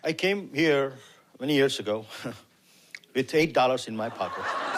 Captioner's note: laughs